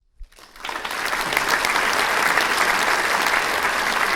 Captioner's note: congregation clapping